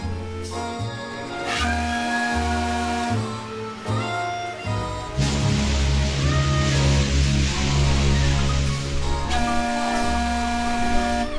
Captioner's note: The tugboat whistles, the Queen Mary responds with booming calls